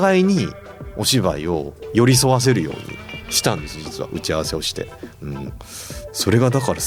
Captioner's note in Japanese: 鼻息